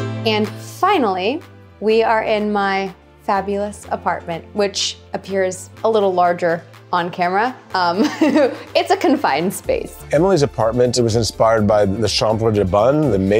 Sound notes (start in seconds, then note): 7.9 laughs